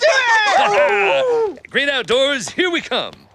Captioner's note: laughs